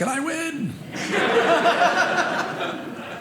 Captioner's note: audience laughing